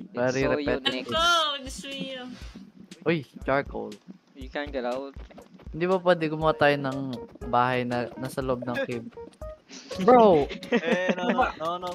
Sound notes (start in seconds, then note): 10.4 chuckles